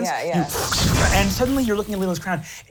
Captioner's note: electricity sparking